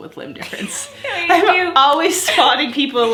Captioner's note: laughs